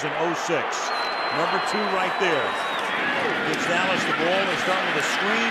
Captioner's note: cheering